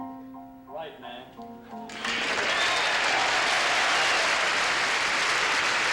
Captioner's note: applause